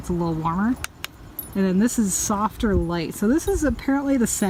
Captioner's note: click